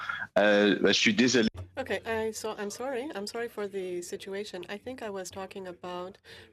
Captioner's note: speaking French